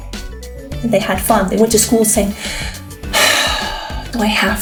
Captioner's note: sigh